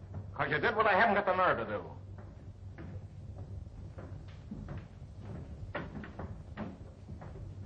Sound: none

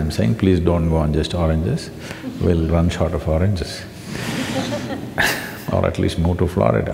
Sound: few laugh

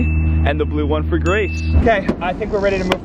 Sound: bell ringing

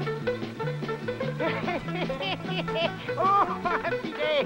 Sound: laughter

